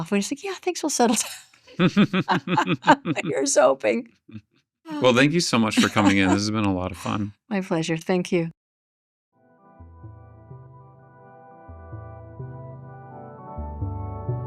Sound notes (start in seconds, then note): 1.7 chuckles; 9.6 soft uptempo music